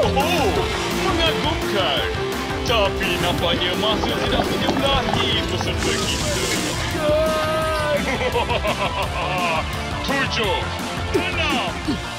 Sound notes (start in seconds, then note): 2.8 bubbling sounds; 7.8 smug laughter